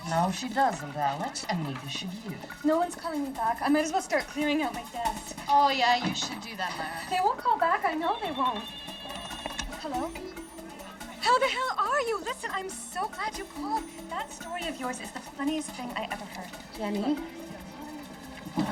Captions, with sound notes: - No, she doesn't, Alex, and neither should you. - No one's calling me back. I might as well start clearing out my desk. - Oh yeah, you should do that, Myra. - They won't call back. I know they won't. (phone ringing) Hello. How the hell are you? Listen, I'm so glad you called. That story of yours is the funniest thing I ever heard. - Jenny.